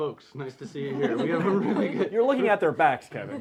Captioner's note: laughing